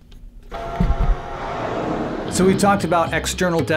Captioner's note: low rumble